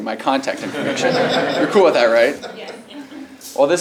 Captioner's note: laugh